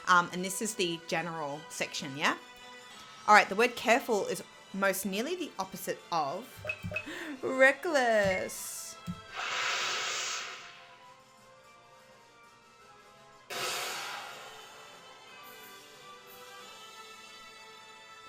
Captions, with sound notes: and this is the general section, yeah? All right, the word careful is most nearly the opposite of, reckless. (attack whooshing) (soft music continues)